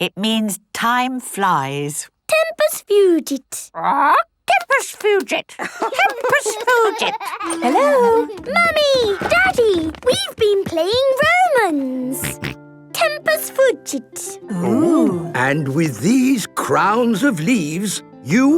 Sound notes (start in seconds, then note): 5.5 laughing; 5.8 bird repeating